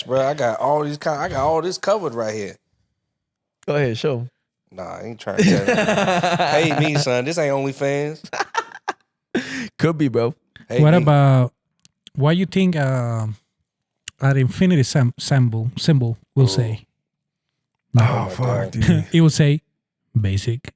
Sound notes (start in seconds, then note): 5.3 laughing